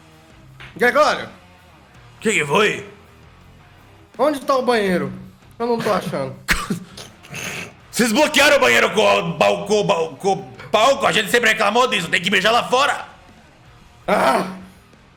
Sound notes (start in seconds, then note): 6.6 snorts; 6.7 stutters